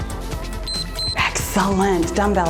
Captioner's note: timer beeps